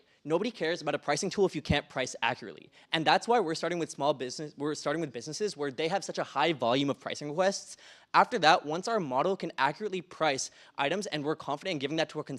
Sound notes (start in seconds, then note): none